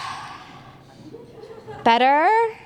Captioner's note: they breathe